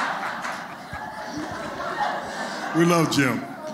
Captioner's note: laughter